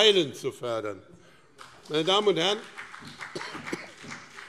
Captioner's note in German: Beifall BÜNDNIS 90/DIE GRÜNEN